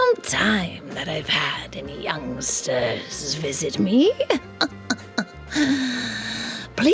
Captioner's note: laughs